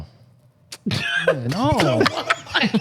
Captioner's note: laughing